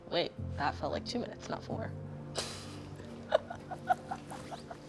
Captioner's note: laughing